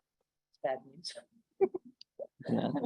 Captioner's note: laughs